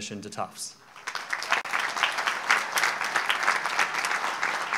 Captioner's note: audience applauds